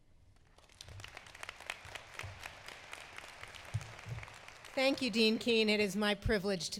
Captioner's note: applause